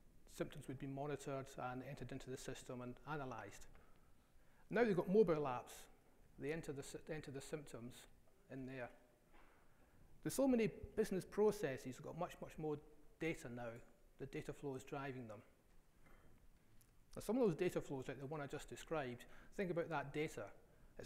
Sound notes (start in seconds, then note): none